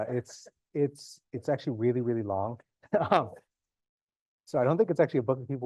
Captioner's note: chuckles